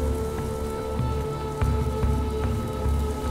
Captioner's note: locusts hissing